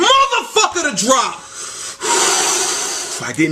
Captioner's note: deep Inhale